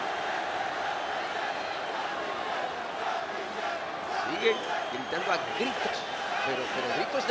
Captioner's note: applause